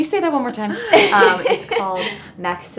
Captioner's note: woman Laughing